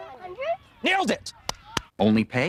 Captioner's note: clapping